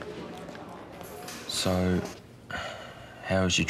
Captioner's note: sighs